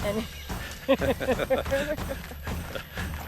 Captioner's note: laughing